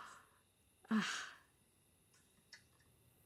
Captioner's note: Jenny sighs